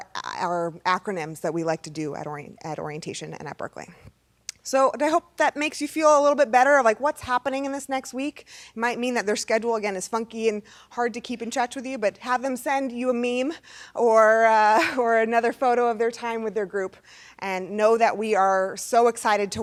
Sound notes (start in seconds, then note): none